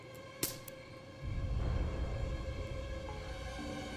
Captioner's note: twig snaps